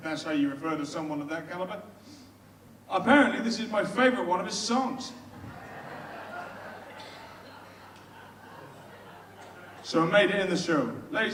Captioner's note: audience laughs